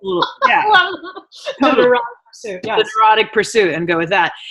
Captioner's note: laughing